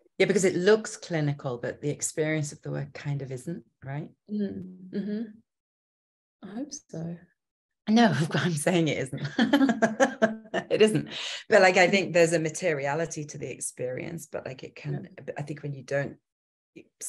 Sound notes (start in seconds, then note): 10.2 laughing